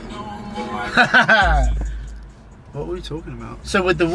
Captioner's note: laughs